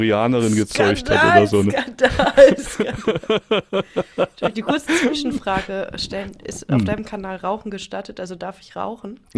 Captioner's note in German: gelächter